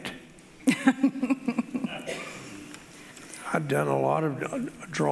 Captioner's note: laughing